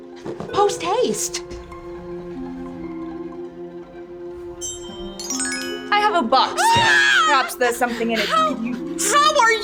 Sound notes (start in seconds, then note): 4.4 twinkle bell sound; 6.5 Faye screams